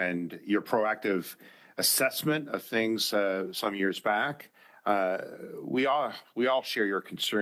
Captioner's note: speaking French